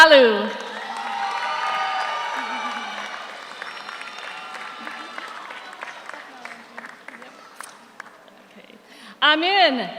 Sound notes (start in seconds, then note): 0.6 audience cheers; 0.6 audience applauds